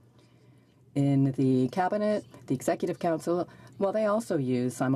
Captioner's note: none